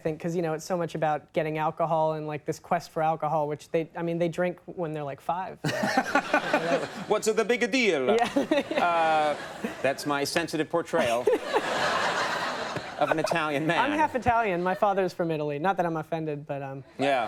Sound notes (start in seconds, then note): 5.7 Conan and audience laughing; 8.1 Michael and audience laugh; 10.9 Michael and audience laughs